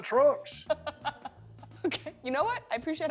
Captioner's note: laughs